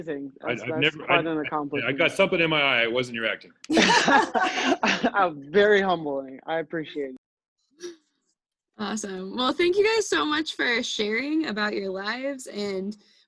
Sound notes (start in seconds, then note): 3.7 all laugh